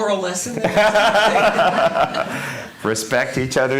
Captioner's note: laughter